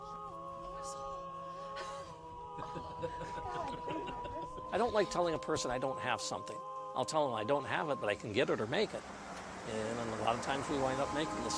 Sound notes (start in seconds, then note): 2.5 giggles